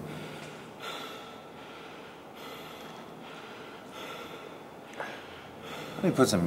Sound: hard breath

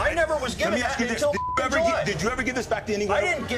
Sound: beep

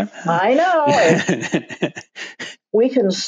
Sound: laughs

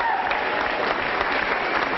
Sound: applause

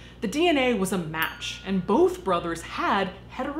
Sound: chiming

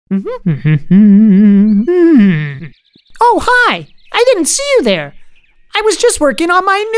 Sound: humming

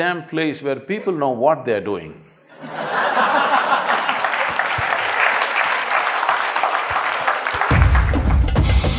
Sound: laughter/Applause

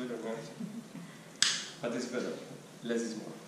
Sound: blonde woman laughs

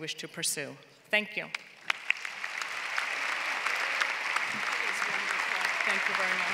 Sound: applause

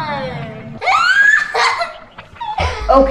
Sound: crazy laughs

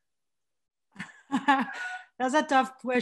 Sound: laughs

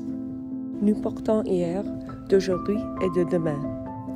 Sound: French

